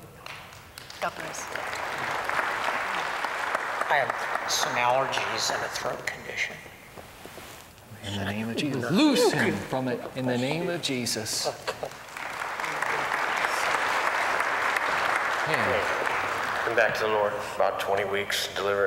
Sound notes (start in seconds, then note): 0.1 applause; 11.7 applause